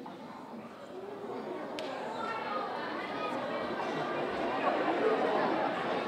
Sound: audience exclaiming

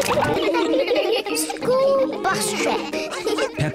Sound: giggling

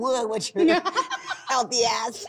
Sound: laughing

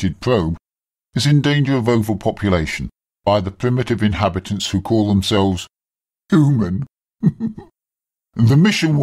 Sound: laughs

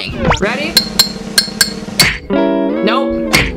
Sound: glass clings; drum rolls

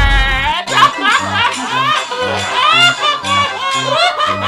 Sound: carnival music; laughs; pipes banging; laughing hysterically

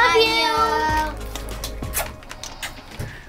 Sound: kisses

